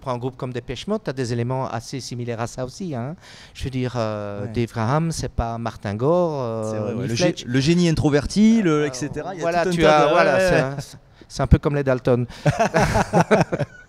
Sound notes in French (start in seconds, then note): 12.4 rires